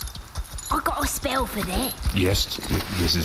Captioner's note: rummages through package